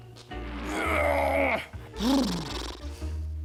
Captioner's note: grunts; blubbers lips